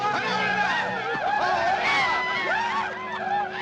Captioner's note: war cries